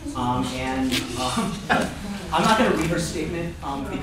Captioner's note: laughter